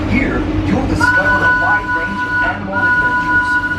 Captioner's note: train choo chooing